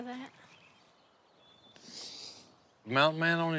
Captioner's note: sniffing